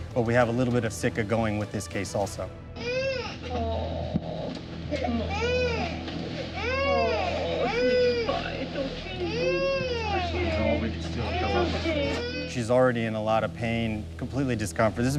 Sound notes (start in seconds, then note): 4.3 chattering; 4.8 cries